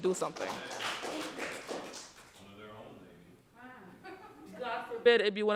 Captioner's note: audience applauding